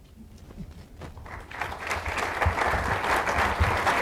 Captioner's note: applause